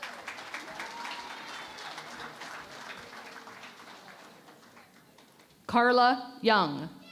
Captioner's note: applause